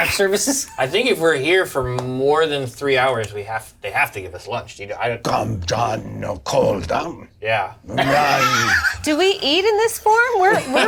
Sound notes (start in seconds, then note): 6.3 speaks fantasy language